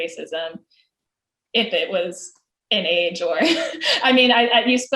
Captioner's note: laughs